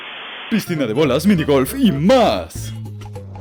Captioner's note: none